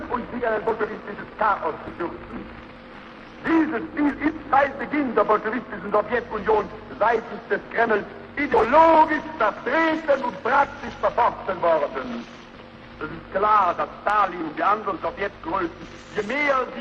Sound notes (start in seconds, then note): none